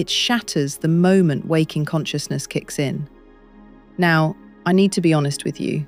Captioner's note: serious tone